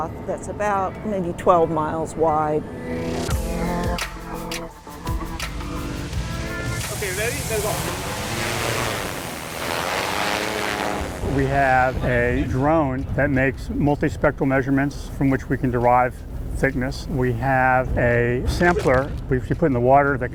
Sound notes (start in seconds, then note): 3.5 upbeat music; 9.4 drone buzzing